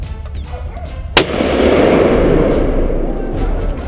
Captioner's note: gunshot